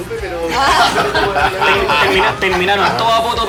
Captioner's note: laughs